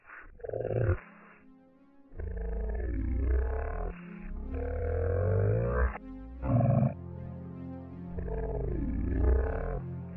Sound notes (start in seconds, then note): 2.1 spooky hand noises